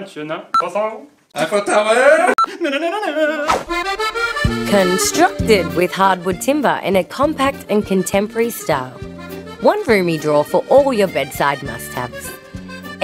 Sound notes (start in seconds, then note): 2.1 singing; 3.4 whoosh